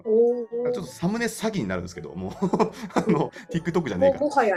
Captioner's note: laugh